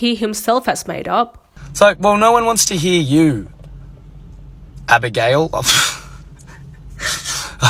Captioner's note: laughs